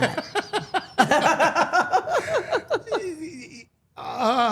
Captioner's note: all laughing